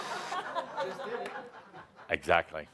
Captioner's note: laughter